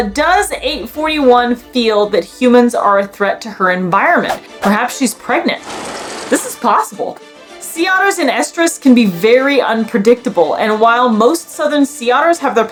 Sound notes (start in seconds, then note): 5.6 sound effect; 5.8 background music